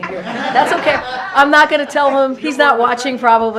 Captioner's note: laughter